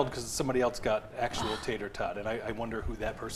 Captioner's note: sighs